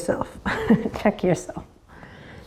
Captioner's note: chuckles